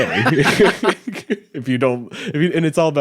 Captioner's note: both laughing